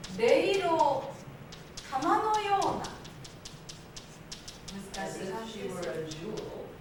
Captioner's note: speaking Japanes